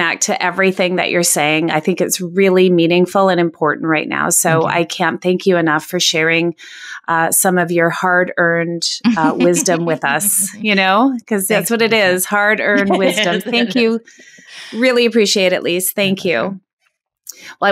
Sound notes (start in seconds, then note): 12.7 laughing